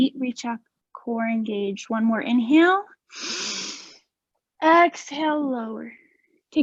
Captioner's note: inhaling